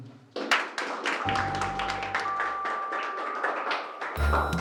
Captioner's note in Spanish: aplausos